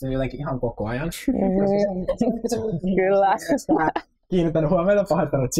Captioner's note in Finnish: Frida ja Mertsi nauravat